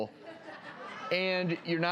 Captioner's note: audience laughs